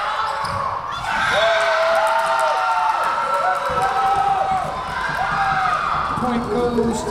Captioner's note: Tigers cheering; whistle blowing